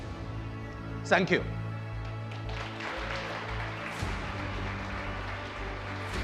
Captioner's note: audience applauds